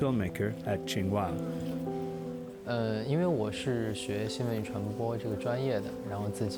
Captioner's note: speaking chinese